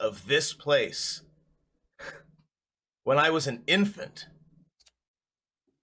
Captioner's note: laughs quietly to himself